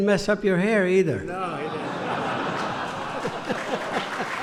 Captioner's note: laughter; applause